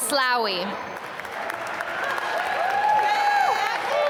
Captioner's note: applause